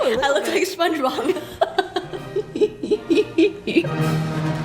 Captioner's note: laughs